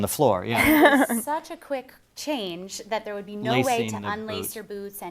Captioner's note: laugh